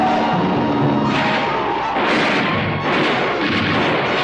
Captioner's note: bullets firing